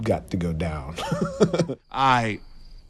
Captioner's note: laughing